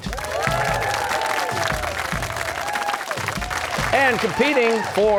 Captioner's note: cheers and applause